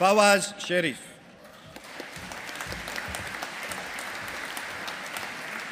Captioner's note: audience applauding